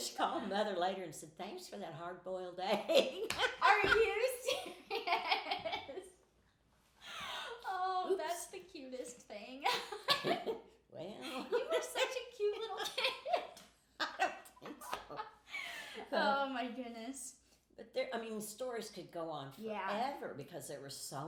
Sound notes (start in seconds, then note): 2.8 laughing; 9.6 laughing; 14.0 laughing